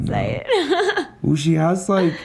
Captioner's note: laughs